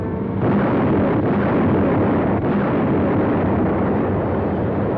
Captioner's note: explosions booming